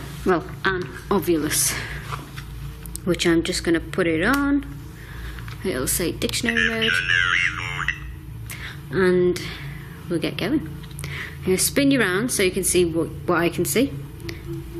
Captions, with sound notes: an Ovilus which I'm just gonna put it on and it'll say dictionary mode. [Synthesised Voice] Dictionary mode. And we'll get going. I'm gonna spin you around so you can see what I can see.